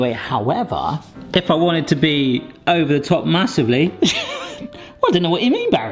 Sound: chuckles

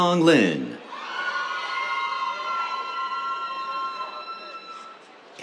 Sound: cheers

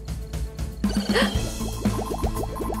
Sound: gasps

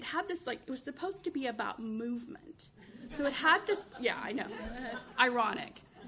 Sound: chuckles

